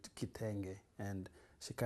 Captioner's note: non-english